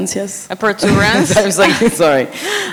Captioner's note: laugh